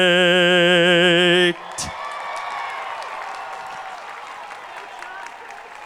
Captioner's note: crowd applauding